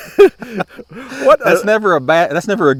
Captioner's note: both laughing